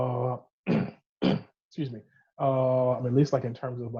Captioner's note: clears throat